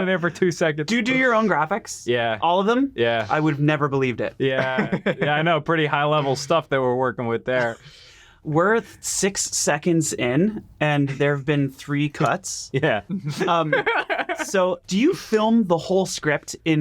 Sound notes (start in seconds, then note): 4.5 chuckles